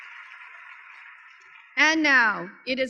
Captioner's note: applause